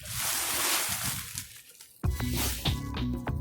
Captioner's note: bag rustles; mellow music